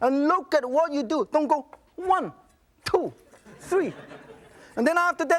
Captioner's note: audience laughs